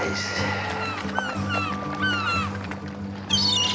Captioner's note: cawing